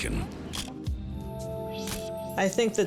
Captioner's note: camera shutter click